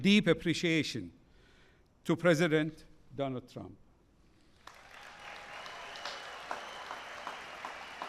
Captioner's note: applause